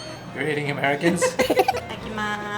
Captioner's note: laughs